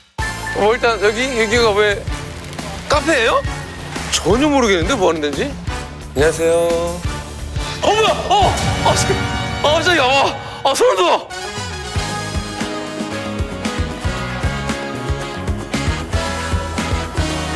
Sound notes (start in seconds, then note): 8.4 swoosh